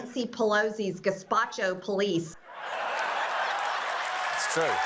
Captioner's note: laughter